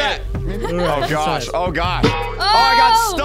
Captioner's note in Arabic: تضحك; قعقعة معدنية